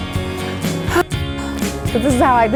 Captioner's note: sighing